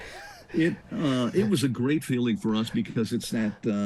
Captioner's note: chuckling